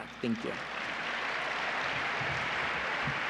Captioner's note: applause